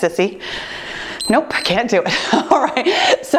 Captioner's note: timer beeps